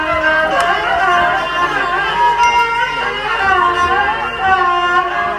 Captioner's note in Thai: ปรบมือ